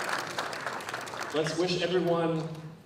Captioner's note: applause